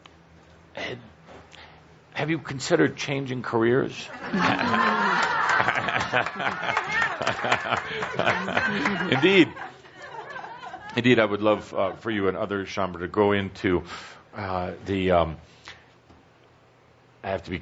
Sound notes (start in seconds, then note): 4.1 much laughter